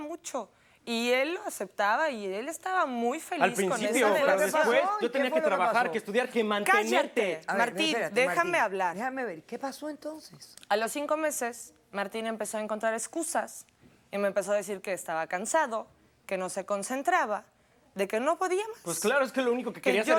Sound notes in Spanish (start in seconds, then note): 5.6 Hablan al unísono